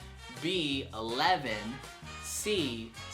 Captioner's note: none